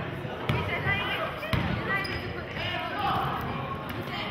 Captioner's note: yelling